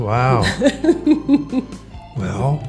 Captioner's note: laughs